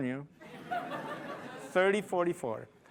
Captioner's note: laughing